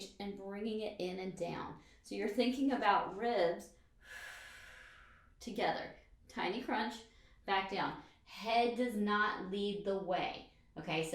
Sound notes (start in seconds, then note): 4.0 exhales breath